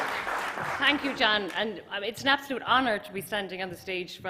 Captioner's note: applause